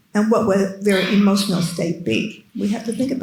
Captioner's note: attendee coughing